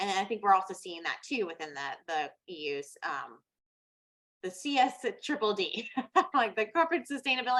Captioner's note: chuckles